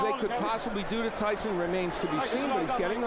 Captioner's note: applause